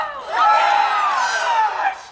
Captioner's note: all cheer